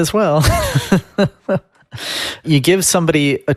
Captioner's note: laughing